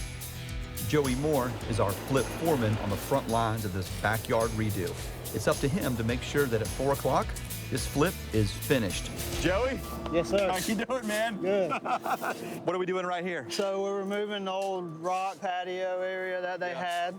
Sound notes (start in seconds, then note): 0.0 optimistic music; 10.7 both laughing